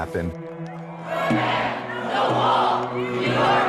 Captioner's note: crowd chanting